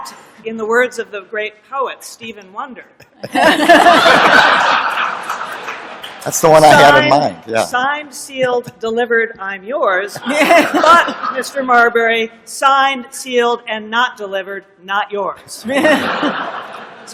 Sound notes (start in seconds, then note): 3.0 laughter